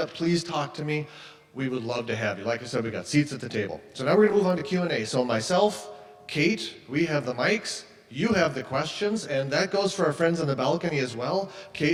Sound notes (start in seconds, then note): none